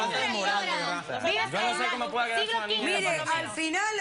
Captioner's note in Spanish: Comentarios al unísono